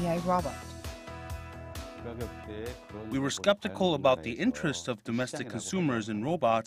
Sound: Korean

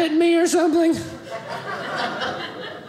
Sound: audience laughing

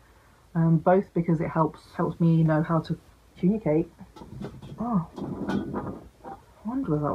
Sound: bottle rolling noise

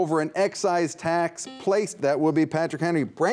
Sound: buzzer beeps

